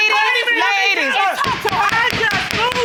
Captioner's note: gavel pounding